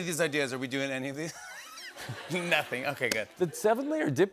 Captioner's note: laughs